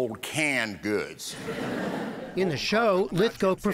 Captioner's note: laughter